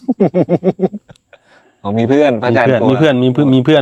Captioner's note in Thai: เสียงหัวเราะ